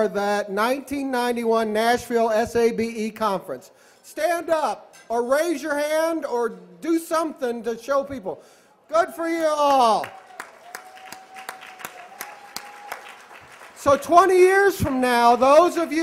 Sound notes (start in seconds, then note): 9.6 applause